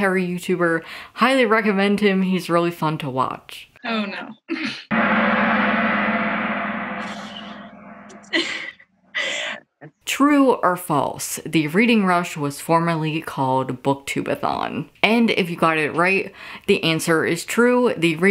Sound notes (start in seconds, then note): 4.9 cymbal crashing; 8.4 laughing